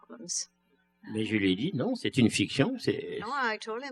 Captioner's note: speaking french